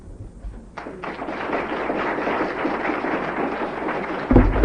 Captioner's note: applause